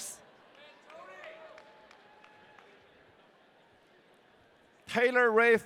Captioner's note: audience cheering